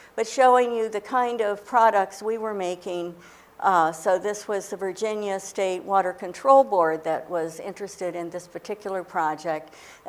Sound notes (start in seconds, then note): none